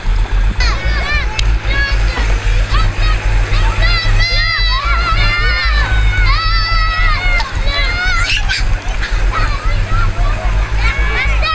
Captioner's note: children yelling